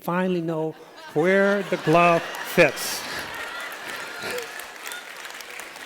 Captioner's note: laughter